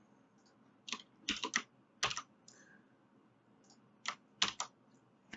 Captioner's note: keyboard clicks